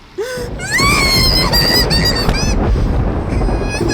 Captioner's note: shrieks